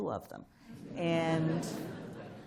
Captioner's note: laughter